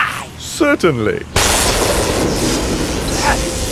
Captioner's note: lightning